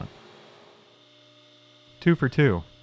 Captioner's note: surface grinder whirring